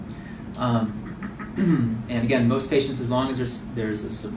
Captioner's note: clears throat